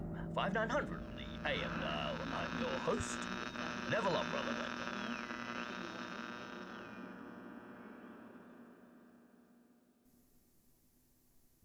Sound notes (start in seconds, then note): 4.9 static buzzing